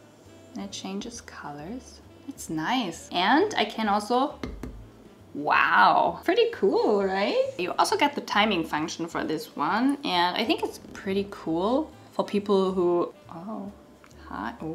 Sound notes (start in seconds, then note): 4.4 lamp thuds